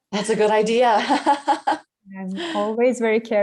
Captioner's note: laughs